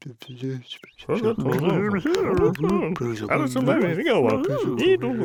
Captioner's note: visitors mumbling together